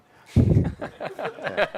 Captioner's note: laughter